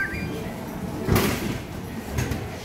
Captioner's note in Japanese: 飲み物が出てくる音; nanacoの決済音